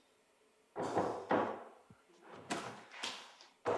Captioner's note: knocking